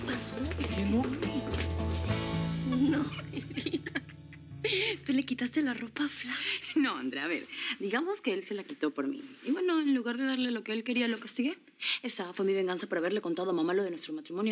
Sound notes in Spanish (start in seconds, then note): 2.6 risas